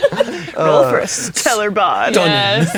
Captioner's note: players laughing